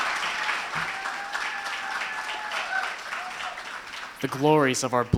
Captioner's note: ^applause^